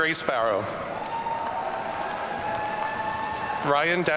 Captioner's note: audience cheering